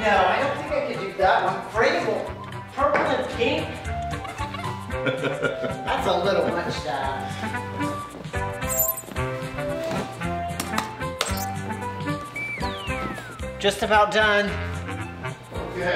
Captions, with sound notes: - No, I don't think I could do that. And Frannie will... Purple and pink. (Phil laughs) That's a little much, Dad. (upbeat music) Just about done.